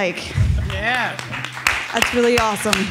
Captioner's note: attendees applauding